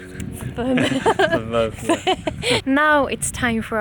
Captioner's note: mumbling and laughter